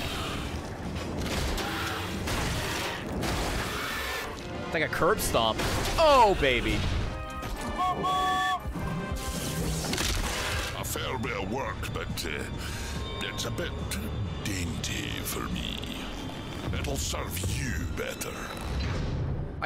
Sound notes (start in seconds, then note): 7.6 train whistle